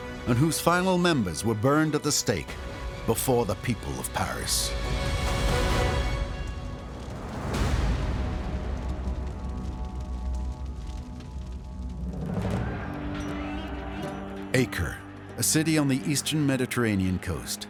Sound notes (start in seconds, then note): 5.2 dramatic music reaches a crescendo; 12.1 battle sounds